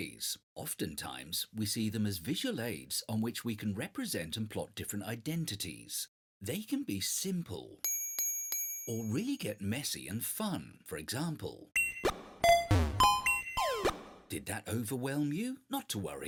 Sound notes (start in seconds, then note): 7.8 ding, ding, ding; 11.8 sound effects